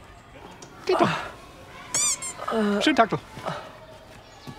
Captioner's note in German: Quietschenten-Laut